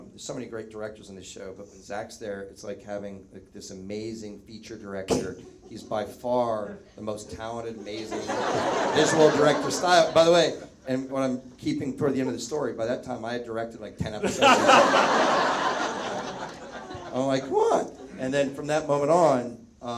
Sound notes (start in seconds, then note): 14.2 Zach laughs; 14.2 audience laughs